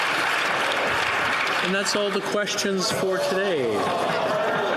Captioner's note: some Applause